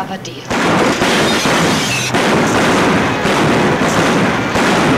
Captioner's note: guns bang